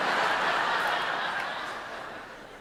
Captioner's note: laughter